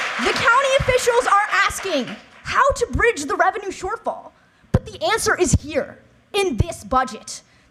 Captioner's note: cheers and applause